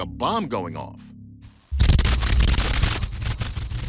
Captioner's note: loud explosion